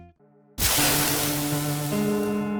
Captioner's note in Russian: шипение